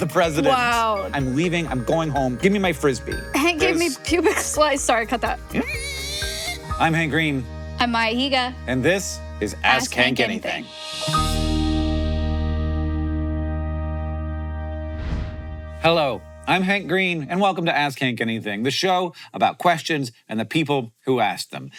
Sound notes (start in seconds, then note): 5.7 Hank imitating pig squealing; 10.4 gentle bright music; 10.4 logo whooshes; 14.9 screen whooshes